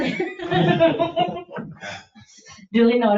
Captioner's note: people chuckle